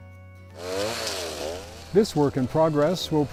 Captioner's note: chainsaw revs